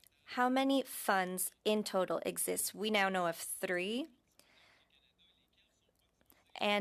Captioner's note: speaking French